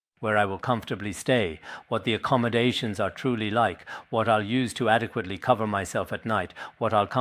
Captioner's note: citing scripture in Tibetan